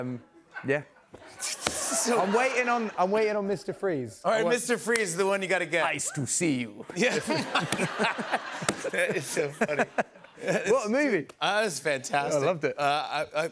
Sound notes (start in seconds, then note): 5.6 as Schwarzenegger; 6.9 laughter; 9.6 normal voice